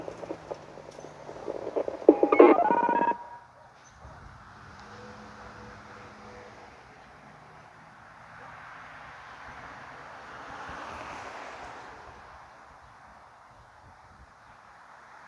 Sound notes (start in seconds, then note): 2.4 telephone noise